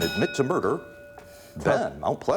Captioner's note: ding